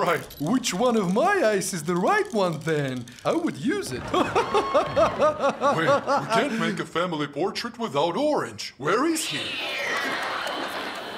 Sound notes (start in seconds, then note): 3.8 Green laughs